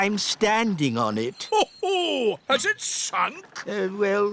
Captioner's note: laughs